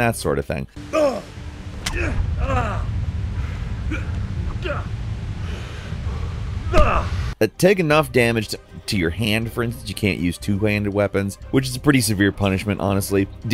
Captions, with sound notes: that sort of thing. (character grunting) But take enough damage to your hand, for instance, you can't use two-handed weapon, which is a pretty severe punishment, honestly.